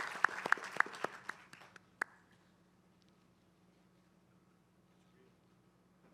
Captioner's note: applause